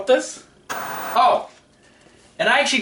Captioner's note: white noise scratching